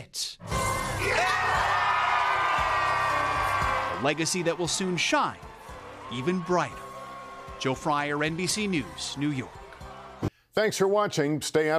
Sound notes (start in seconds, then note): 9.2 cheers